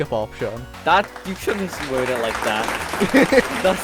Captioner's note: applause